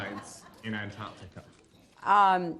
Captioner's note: laughter